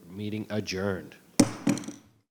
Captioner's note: gavel bangs